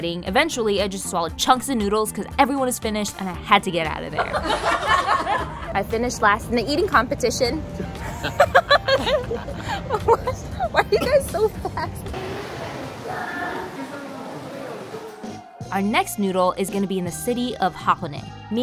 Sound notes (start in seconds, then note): 7.8 laughs